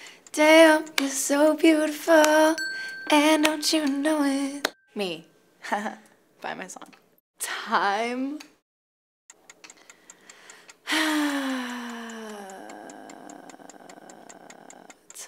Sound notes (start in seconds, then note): 9.3 clock ticking; 10.9 sighs